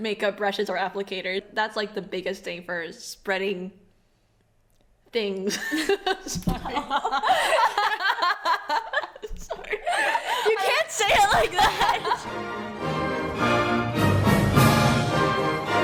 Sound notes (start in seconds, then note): 6.6 laughing; 11.2 upbeat music